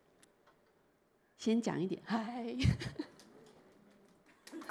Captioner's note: chuckles